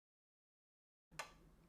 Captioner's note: silence